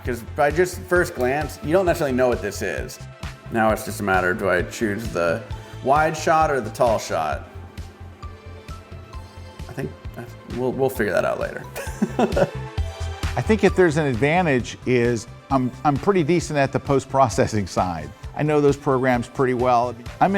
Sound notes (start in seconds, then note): 11.7 laughs; 12.7 upbeat music